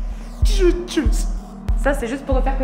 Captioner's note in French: en pleure